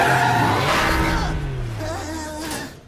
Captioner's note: engine revving; tires screeching; groans